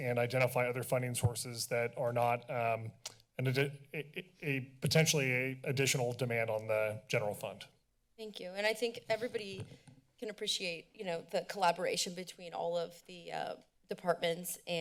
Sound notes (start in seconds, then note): 2.9 clicks tongue; 3.7 stuttering